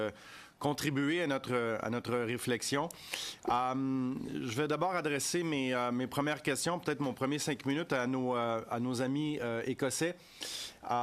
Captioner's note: speaking French